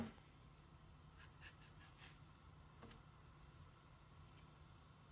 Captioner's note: griddle sizzling